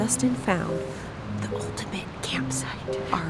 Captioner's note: whispers